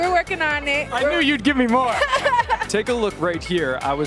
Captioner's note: laughter